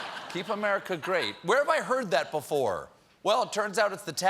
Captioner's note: laughter